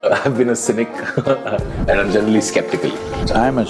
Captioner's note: laughs